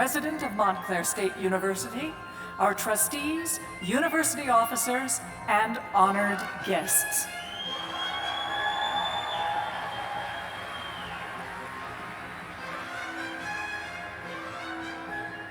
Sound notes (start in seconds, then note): 7.3 cheers and applause